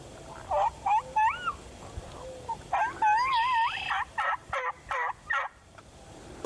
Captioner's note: turkeys gobbling lightly; imitates gobbling